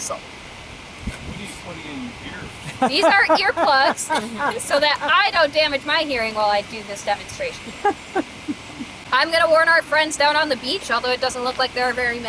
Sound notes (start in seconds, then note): 2.6 laughter